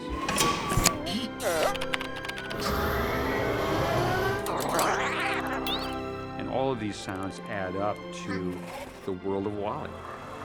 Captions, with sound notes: (ELECTRONIC WARBLING) (HYDRAULICS WHINING) (SHUDDERING) And all of these sounds add up to the world of WALL-E.